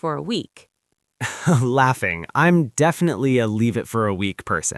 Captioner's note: laughs